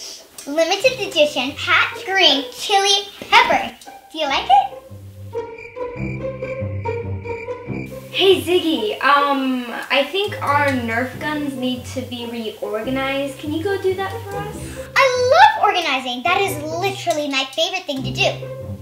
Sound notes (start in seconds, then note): 4.7 crickets chirping